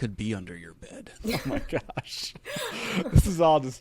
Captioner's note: all laughing